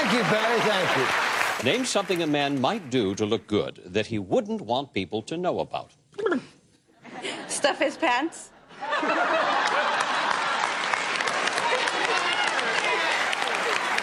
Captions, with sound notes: Thank you, Betty. Thank you. Name something a man might do to look good that he wouldn't want people to know about. [ Lips trilling ] Stuff his pants. [ Laughter ] [ Applause ]